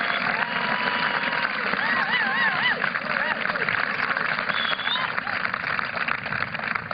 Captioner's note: applause